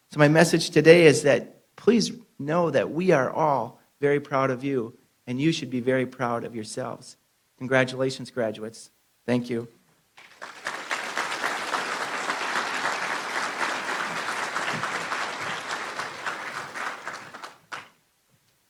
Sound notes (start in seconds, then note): 10.2 applause